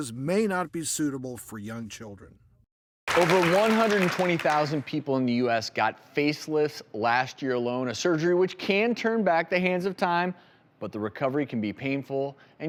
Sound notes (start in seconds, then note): 3.0 applause